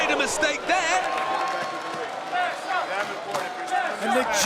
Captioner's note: applause